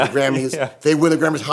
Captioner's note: laughs